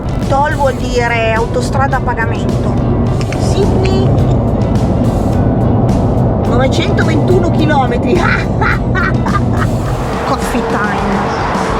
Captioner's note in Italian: risata